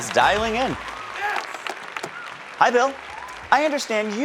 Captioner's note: audience continues cheering